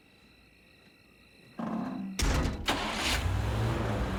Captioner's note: door closes, engine starts